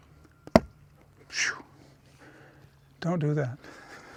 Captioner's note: taps bottle on the table, and buttermilk flies everywhere